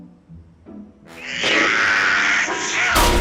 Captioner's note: blows air